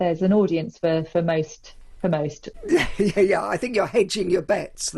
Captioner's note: laughing